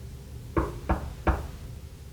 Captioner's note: knock at door